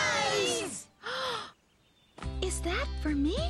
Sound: gasp!

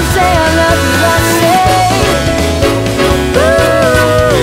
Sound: boop boop, Boop boop

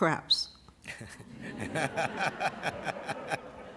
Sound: laughter

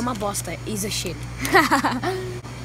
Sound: giggles

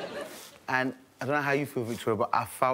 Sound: all laughing

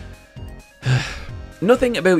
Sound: sighs

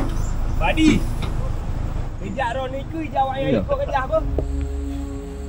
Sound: speaking Aceh

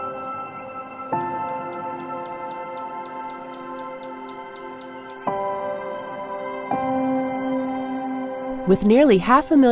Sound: birds singing; crickets chirping

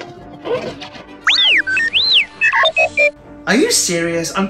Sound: R2D2 chirps exitedly

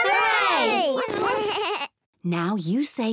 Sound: all make animal sounds

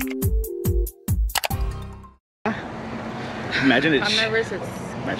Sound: keyboard clacking; mouse clicking

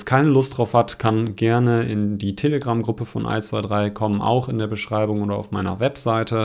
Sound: German

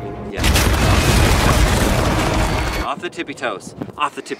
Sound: cracking

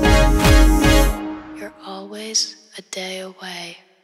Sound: fading Voice

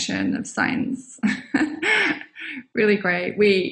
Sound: laughs

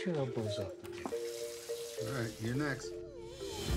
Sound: whines

